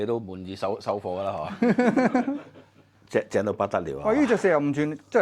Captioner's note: haha!